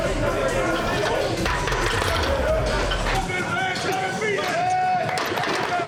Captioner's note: workout machinery clanging